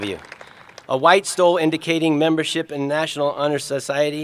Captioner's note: applause